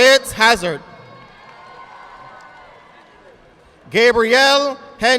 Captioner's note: audience clapping